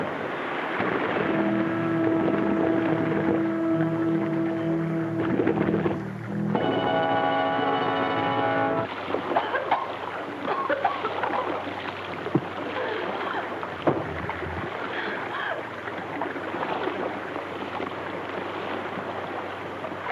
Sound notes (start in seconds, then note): 0.2 water splashes; 1.4 tense music; 6.2 dramatic music; 9.3 coughs; 9.4 water splashes